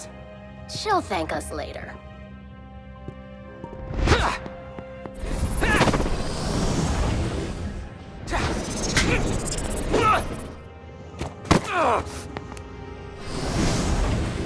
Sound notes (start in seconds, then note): 3.8 Max grunts; 6.4 soft music; 8.1 Max grunts; 8.1 magical buzzing; 11.7 Max grunts